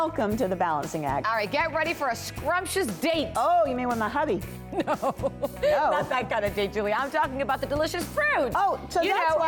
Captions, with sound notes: Welcome to The Balancing Act. Alright, get ready for a scrumptious date. Oh, you mean with my hubby? No. (Laughter). Not that kind of date, Julie. I'm talking about the delicious fruit.